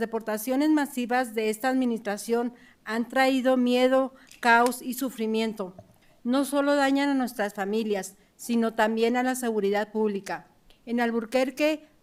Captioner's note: speaking in spanish